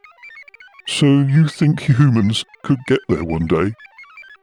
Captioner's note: laughs